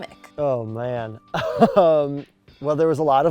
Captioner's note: laughs